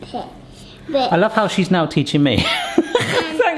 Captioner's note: laughing